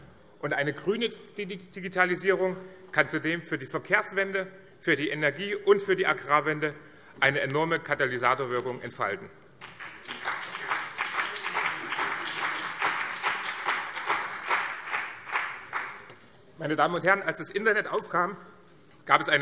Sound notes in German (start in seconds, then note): 9.6 Beifall BÜNDNIS 90/DIE GRÜNEN und CDU